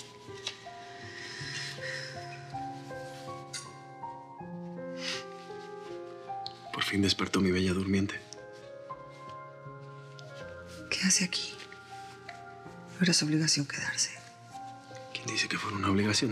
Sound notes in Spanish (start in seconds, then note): 4.9 exhala